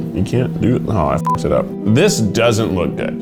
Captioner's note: beep